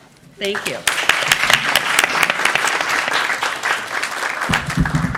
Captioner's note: applause